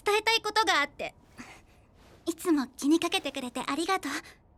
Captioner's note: sighs